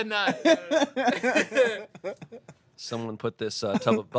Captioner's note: everyone laughs